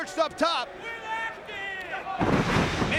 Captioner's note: fan yelling; bodies slamming